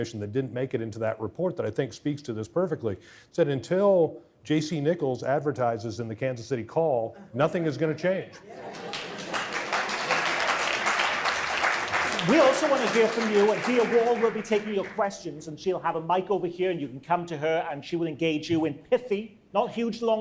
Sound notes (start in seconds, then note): 11.0 audience applause